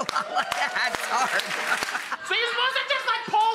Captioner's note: laughs